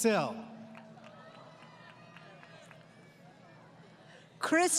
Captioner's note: applause